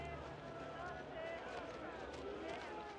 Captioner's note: din of crowd